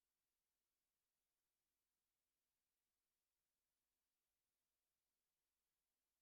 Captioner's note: none